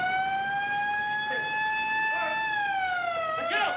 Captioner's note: siren Blaring